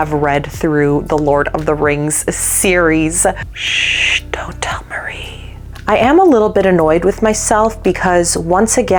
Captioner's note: whispering